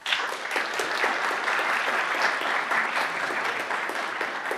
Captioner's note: audience applauds